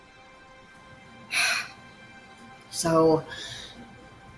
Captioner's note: exhales loudly